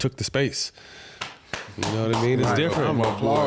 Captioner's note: clapping